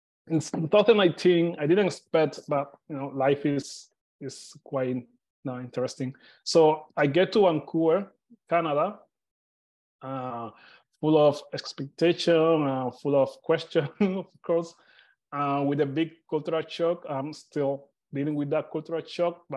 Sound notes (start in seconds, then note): 14.0 chuckles